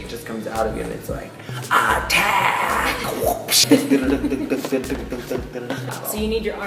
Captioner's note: making energetic noises